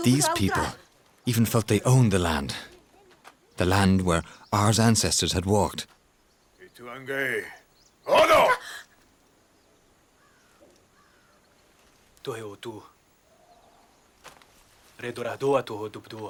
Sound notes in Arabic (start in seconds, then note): 6.6 الصوت المنطوق البدوي